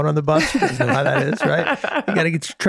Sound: Rob laughing

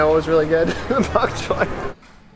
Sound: laughing

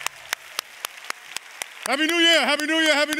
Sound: applause

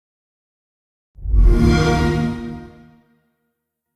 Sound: xbox sound

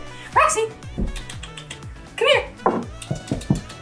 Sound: makes clicking noise

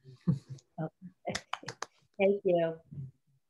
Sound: claps

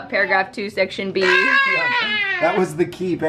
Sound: child shouting

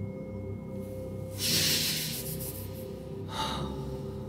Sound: violently sniffing

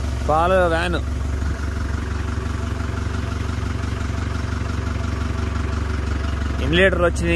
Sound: vehicle sound

